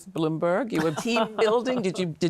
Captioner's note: laughs